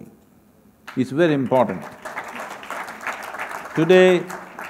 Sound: applause

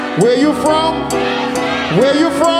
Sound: audience shouting

